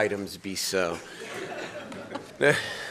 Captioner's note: laughter